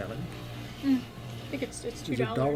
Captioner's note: BOTH laugh